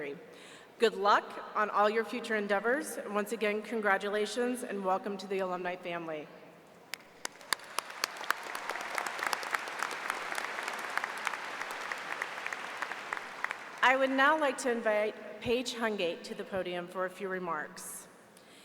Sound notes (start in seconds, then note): 9.2 applause